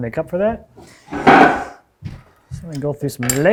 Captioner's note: stool clacks